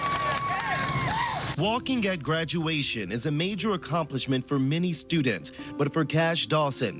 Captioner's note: cheering and applauding